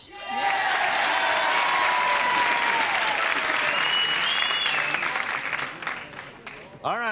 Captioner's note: cheering